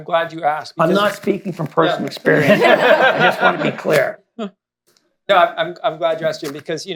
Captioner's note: laughter